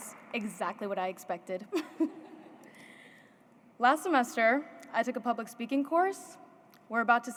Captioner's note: laughs